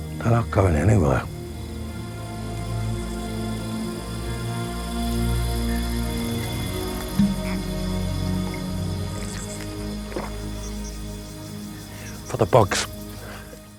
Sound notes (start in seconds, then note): 2.5 bugs chirping; 2.5 gentle music; 10.2 Da Shi gulps